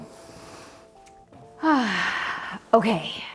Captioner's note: gentle music; sighing